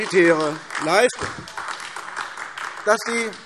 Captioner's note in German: Beifall AfD